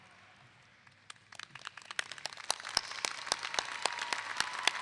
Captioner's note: clapping